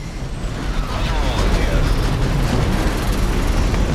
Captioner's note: intense engine noises; muffled voice over radio; engine rumbling